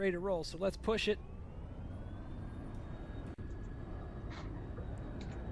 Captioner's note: engine humming